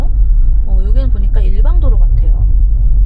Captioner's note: traffic